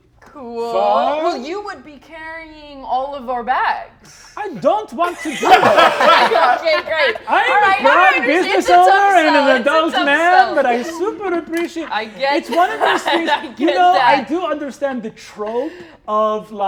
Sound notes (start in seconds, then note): 6.0 all laughing